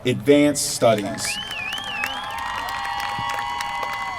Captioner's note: applause